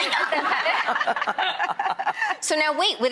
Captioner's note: all laughing